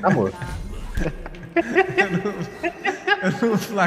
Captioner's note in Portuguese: risos